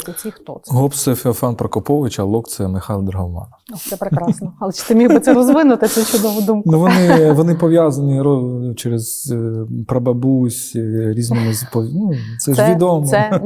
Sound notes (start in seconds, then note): 6.8 laughing; 13.0 both laugh